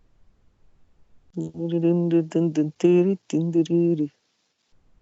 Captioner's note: humms to a random tune